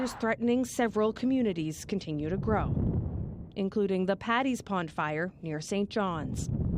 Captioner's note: sirens